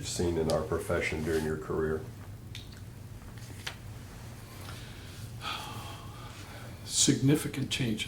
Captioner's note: sigh